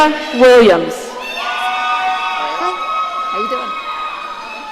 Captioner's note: audience cheering